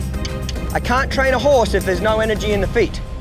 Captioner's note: tongue clicks